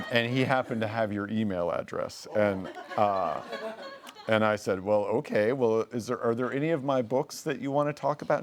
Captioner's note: laughing; laughing